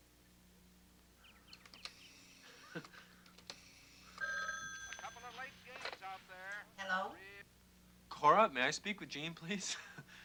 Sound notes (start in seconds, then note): 3.6 phone ringing